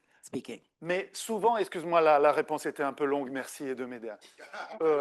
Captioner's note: speaking French